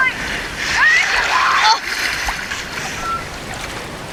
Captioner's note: people yelling